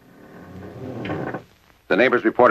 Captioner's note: door creaking open